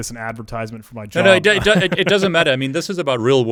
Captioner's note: laughs